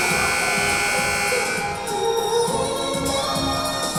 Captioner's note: buzzer blaring